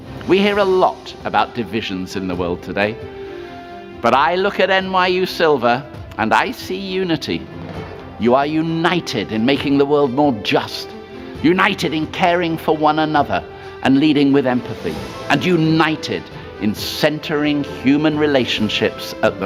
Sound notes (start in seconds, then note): none